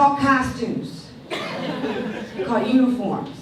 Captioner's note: audience laughs